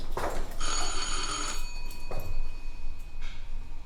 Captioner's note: ding-dong